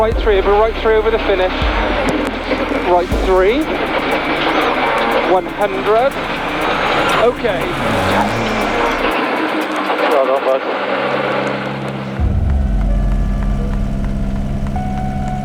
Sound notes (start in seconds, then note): 5.1 motor revving; 12.1 dramatic music